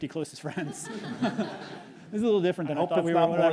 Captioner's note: audience laughs